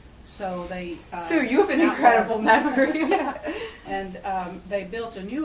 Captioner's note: laughs